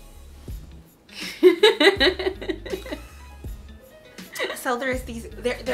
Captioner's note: laughs